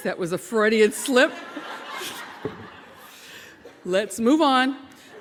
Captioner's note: audience laughing; chuckling